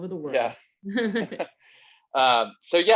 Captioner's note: both laughing